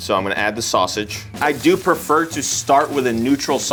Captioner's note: oil sizzles